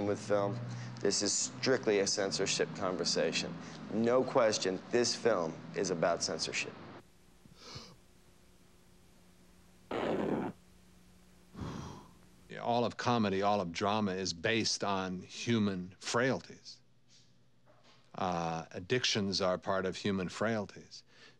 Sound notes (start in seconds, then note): 7.1 inhales; 7.1 ripping; 11.5 exhales